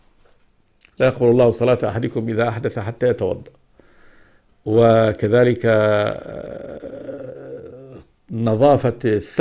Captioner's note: passes wind